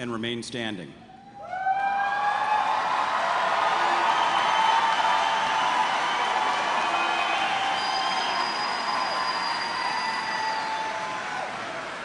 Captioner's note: cheers and applause